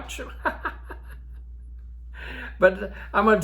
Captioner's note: old Man laughing